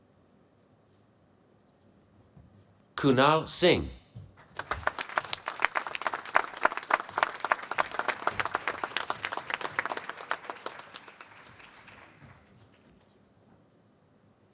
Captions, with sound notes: Kunal Singh. [APPLAUSE]